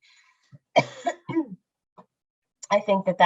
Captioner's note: coughs